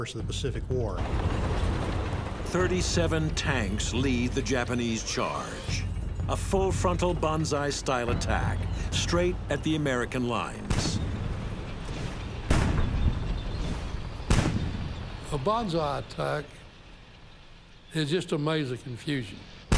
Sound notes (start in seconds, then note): 10.6 cannon shots exploding; 10.7 tanks rumbling